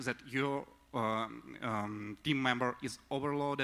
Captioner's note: none